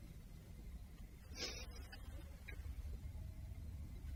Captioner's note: sniffles